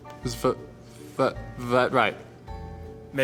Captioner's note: stuttering